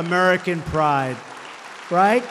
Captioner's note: applause